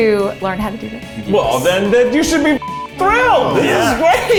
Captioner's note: beep